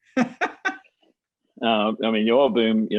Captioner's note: laughing